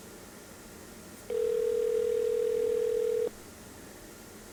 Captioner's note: phone ringing